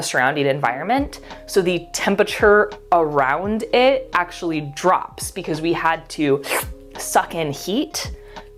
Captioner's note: slurp